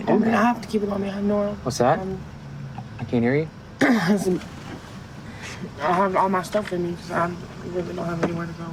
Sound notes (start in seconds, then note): 2.6 clears throat